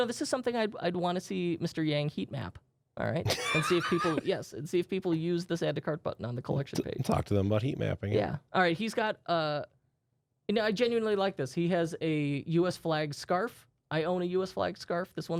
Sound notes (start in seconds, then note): 3.3 softly laughing